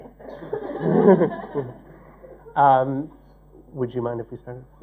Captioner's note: laughter